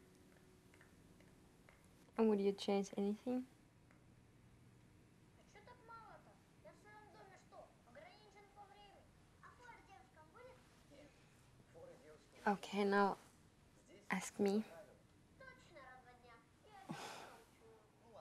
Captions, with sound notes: - And would you change anything? (speaking in a foreign language) Okay, now ask me.